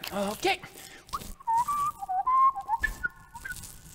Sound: whistling

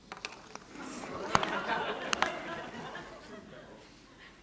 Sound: laughter

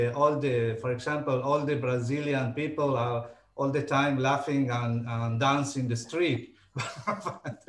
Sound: laughing

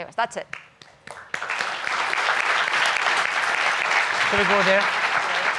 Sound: audience clapping

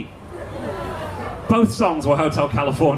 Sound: audience laughing

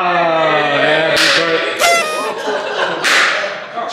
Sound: popping

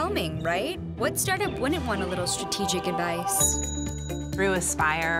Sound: ding

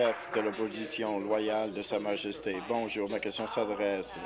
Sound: applause

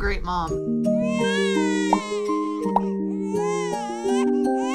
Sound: baby crying

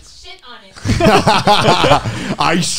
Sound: everyone laughs

